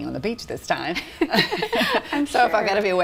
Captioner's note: laughing